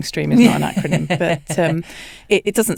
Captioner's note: laughs